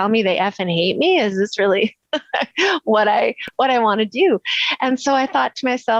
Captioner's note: laughs